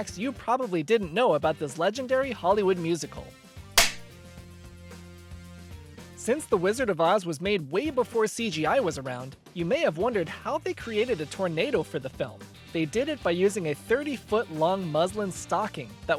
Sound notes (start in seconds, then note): 3.7 film clapper sound, upbeat music continues